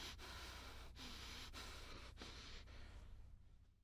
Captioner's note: heavy breathing